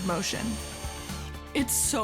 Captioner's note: drill whirring